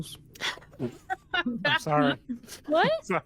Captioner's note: laughter